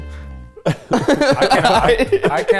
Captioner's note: laughing